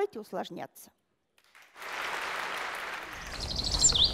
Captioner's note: applause